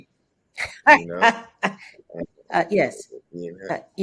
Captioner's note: Regina laughs